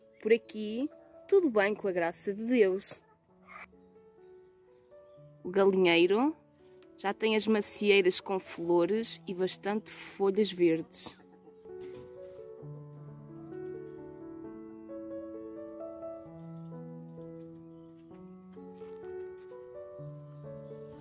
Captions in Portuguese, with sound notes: Por aqui, tudo bem, com a graça de Deus. O galinheiro já tem as macieiras com flores e bastantes folhas verdes. [som do galinheiro] [som das galinhas a caminhar]